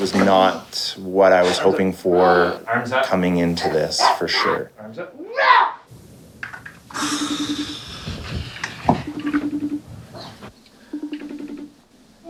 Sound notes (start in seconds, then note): 5.1 roaring; 7.1 phone ringing